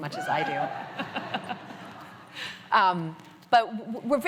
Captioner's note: laughter